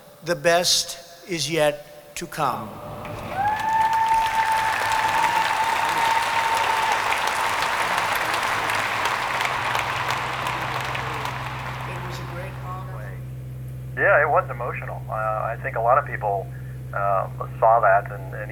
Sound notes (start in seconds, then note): 3.2 audience clapping; 10.3 plane engine whirring